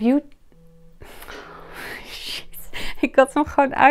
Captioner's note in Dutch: Er gaat een telefoon af